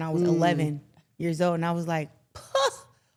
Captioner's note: scoffs